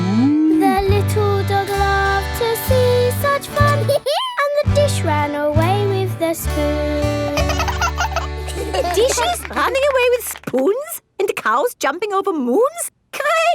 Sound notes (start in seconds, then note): 3.8 dog laughs; 7.3 both laugh